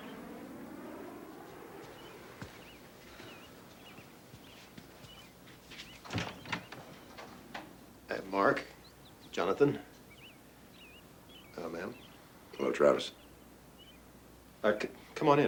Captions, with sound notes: [door opening] TRAVIS: Hey, Mark, Jonathan. Hello, ma'am. MARK: Hello, Travis. TRAVIS: Uh, come on in, folks.